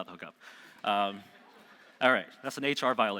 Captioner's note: audience laughing